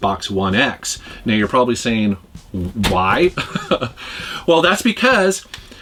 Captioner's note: laughs